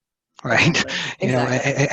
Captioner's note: laughs